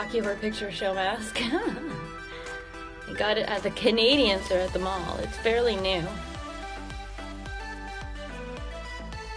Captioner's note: laughs